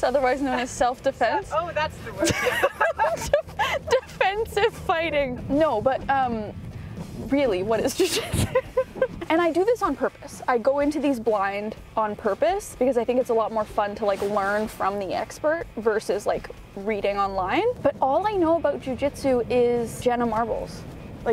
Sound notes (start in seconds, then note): 2.2 both laughing; 8.0 laughing